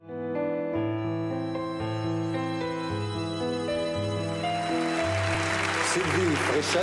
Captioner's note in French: applaudissements